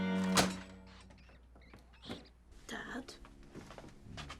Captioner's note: latch clangs